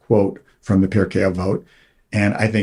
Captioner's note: hebrew